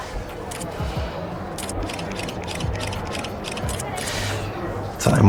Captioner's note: camera shutter clicking